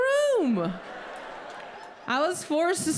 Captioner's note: audience laughs